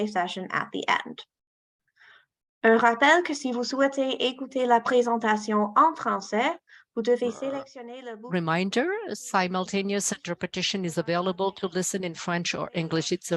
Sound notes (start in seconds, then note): 3.0 speaking french